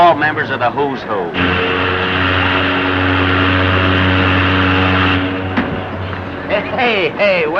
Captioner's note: ship horn